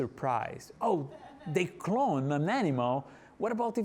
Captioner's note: audience laughing